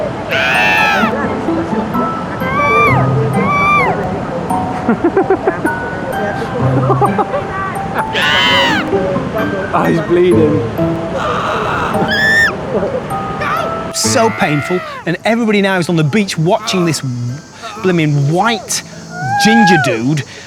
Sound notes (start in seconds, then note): 0.2 screams; 4.7 laughter; 8.1 screams